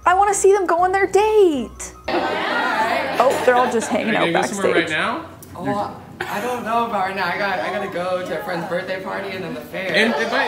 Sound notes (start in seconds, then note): 2.3 people chattering